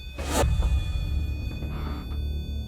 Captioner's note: electronic whining